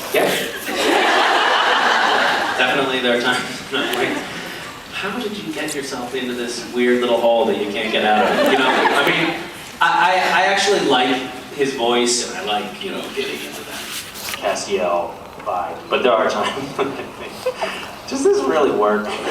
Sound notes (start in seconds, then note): 0.2 laughs; 3.5 laughing; 8.0 laughs; 12.4 voice gets deeper; 19.0 laughing